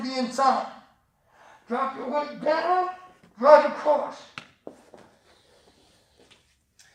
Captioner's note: tap